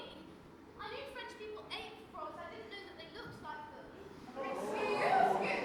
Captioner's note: audience: ooooo